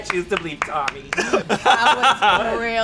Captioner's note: laughing